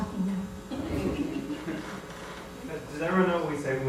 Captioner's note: laughter